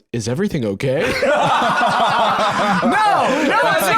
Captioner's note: all laughing